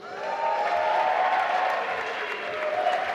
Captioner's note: applause